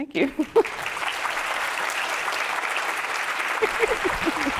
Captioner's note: audience applauding